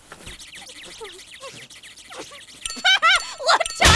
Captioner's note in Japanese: 笑いをこらえる声